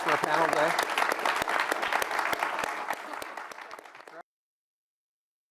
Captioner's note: applause